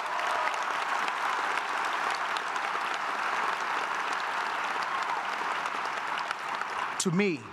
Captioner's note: applause